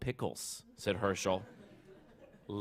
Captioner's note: laughter